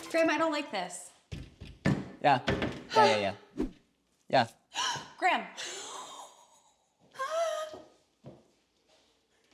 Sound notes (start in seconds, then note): 2.1 tool pounding; 4.9 gasps